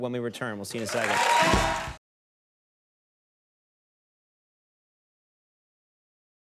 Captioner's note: audience applauding